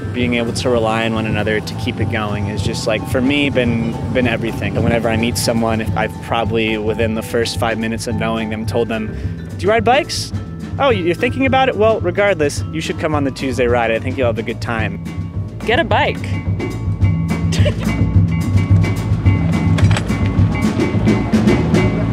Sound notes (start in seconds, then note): 17.4 laughs; 18.8 ♬ Upbeat jazz, wheels on gravel